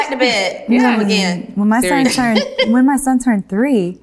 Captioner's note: laughs